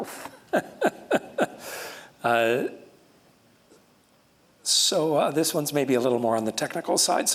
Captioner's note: chuckles